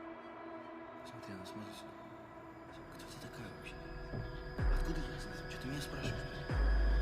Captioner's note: Russian agents speaking in a foreign language